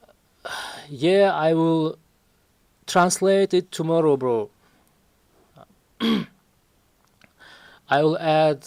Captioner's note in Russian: кашель; откашливается